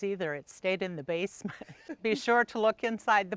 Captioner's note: laughing